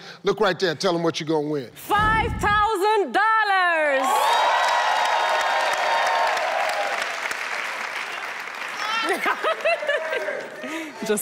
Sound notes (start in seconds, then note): 3.9 audience clapping and cheering; 9.0 loudly laughing